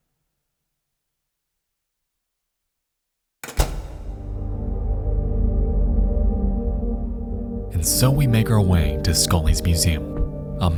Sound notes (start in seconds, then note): 3.4 door closes; 4.1 uneasy music